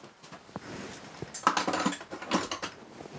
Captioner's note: clattering